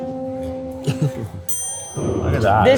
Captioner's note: chuckles; bell dings